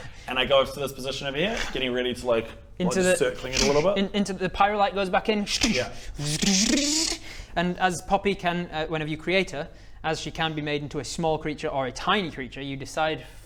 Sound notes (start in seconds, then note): 6.2 fzzzdszzdsszdsssszh